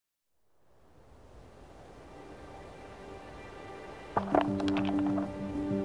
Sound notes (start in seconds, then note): 0.4 winter wind blows; 4.2 page turning